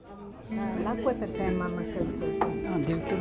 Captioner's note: speaking in foreign language